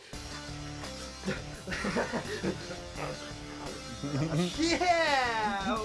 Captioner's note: intense music; laughs